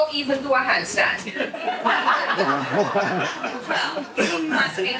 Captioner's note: audience laughs